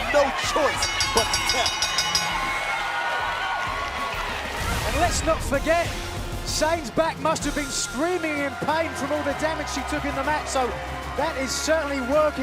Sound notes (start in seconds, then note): 1.9 bell ringing; 3.1 cheers and applause